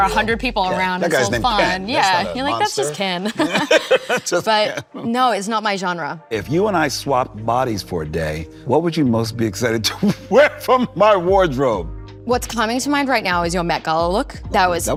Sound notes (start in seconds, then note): 2.9 laughs